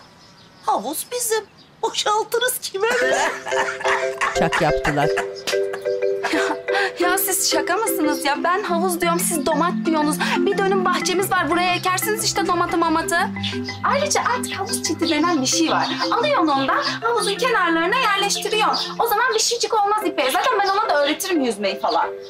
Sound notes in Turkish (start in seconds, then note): 2.8 Gülme sesi